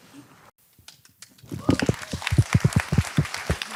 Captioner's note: audience applause